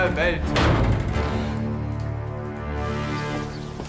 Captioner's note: door slams